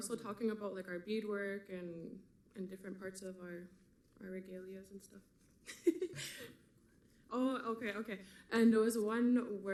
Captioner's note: laughs